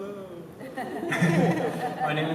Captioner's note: laughter